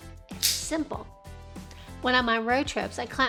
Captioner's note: SNAP Mount clicks